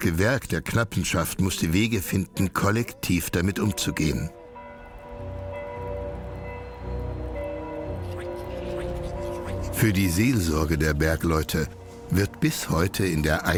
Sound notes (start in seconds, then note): 5.0 church bells; 8.0 duck noises